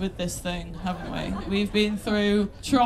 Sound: laughter

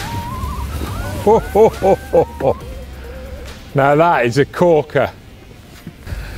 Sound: laughs

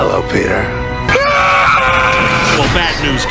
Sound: screams

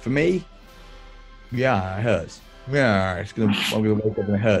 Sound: sniggering; brays

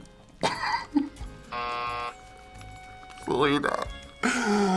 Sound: buzzer

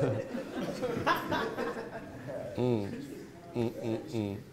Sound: laughing

